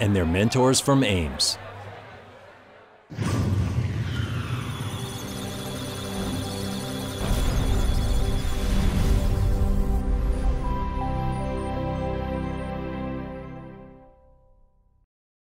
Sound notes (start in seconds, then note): 4.6 electronic Sounds of Data; 4.7 musical Tones